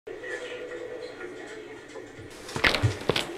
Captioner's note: busy hospital noise, someone walking